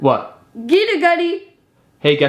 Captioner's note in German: spricht Kauderwelsch